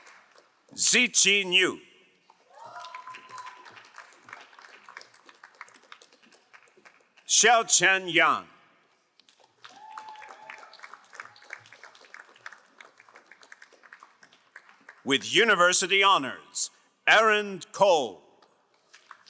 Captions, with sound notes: Zichin Yu. (crowd cheering and applauding) Shaochen Yang. (crowd cheering and applauding) With university honors, Aaron Cole.